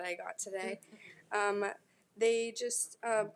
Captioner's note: board members laughing